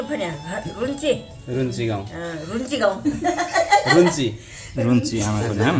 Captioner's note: laughter